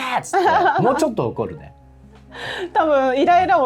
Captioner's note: laughs